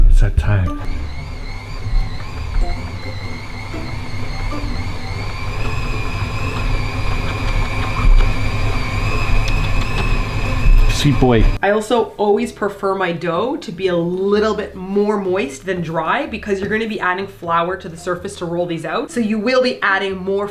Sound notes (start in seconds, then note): 0.8 Mixer whirling and kissy sounds while Meemers licks Simon